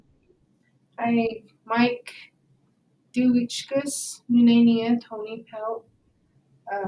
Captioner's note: speaking in foreign language